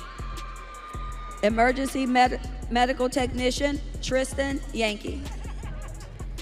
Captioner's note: audience cheering